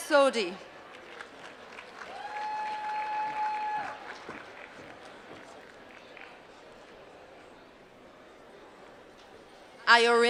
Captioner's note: applause